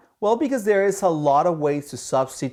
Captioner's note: none